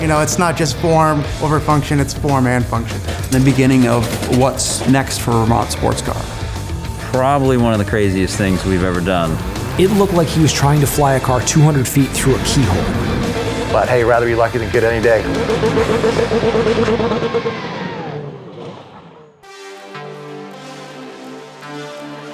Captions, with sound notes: - You know, it's not just form, over function, it's form and function. - The beginning of what's next for Vermont SportsCar. - Probably one of the craziest things we've ever done. (car engine roaring) - It looked like he was trying to fly a car 200 feet through a keyhole. - But hey, rather be lucky than good any day. (funky music)